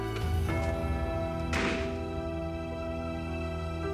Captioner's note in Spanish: Portazo